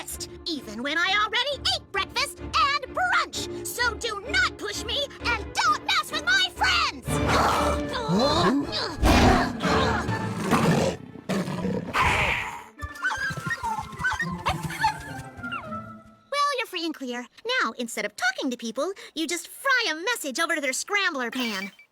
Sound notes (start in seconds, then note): 7.2 roar; 10.1 growl; 10.2 roar